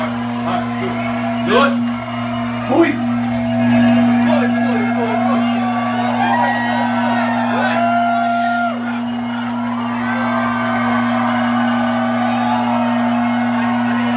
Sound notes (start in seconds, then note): 1.9 audience cheers